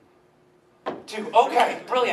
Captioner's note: softer tap